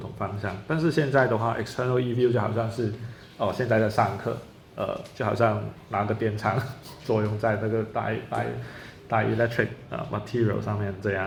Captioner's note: speaking in Chinese